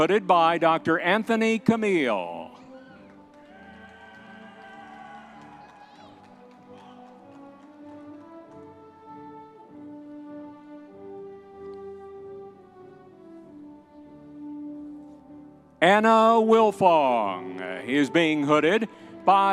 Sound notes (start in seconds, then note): 3.4 audience members cheering